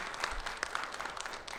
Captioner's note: audience applaud